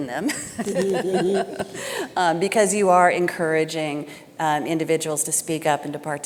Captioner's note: chuckling